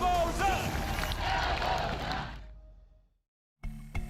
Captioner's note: crowd replies loudly